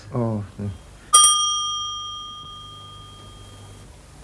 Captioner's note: bell